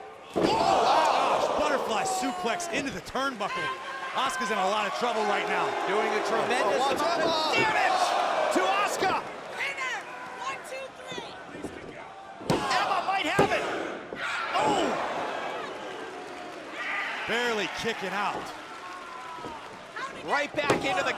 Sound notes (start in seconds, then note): 10.5 crowd chatter